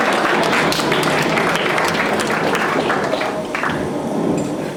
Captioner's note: thunderings